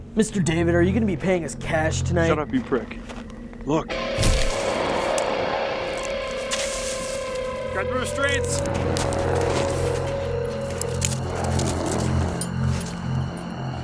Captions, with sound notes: - Mr. David, are you gonna be paying us cash tonight? - Shut up, you prick. Look. (intense guitar music) - Get the restraints. (zombie growls)